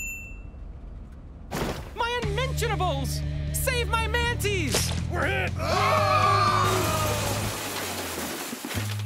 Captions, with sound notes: - My unmentionables! - Save my manties! - We're hit! (Screaming and tires screeching) (Crashes)